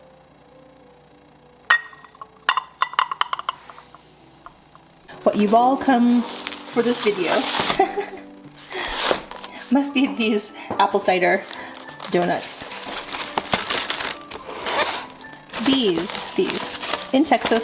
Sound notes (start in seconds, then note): 7.6 giggle